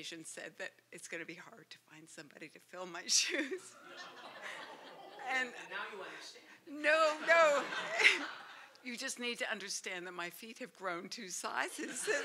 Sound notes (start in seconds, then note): 7.1 laughter